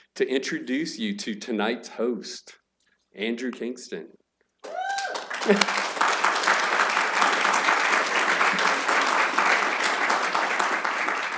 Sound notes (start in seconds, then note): 4.6 applause